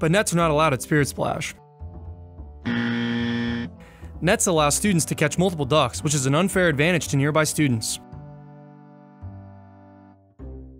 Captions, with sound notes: but nets are not allowed at Spirit Splash. (buzzer dings) Nets allow student to catch multiple ducks, which is an unfair advantage to nearby students.